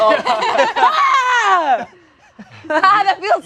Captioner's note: yells